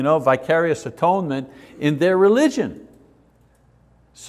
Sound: none

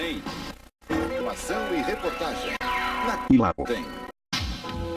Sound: male announcer speaking Portuguese

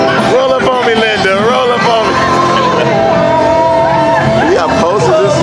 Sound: laughs

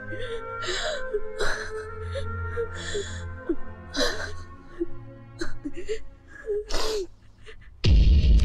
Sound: sobbing

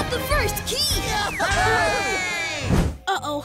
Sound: cheering

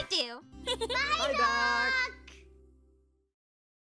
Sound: giggles

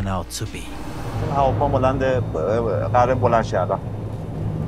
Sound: speaks persian to his mum

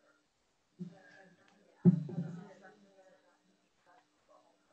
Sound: students talking

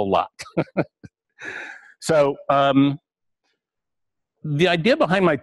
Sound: pause

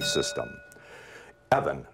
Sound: bell rings

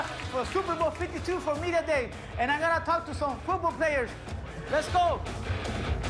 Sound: cheers and applause

